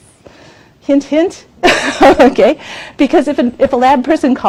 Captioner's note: laughs